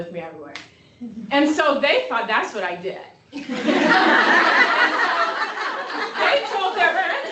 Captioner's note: laughter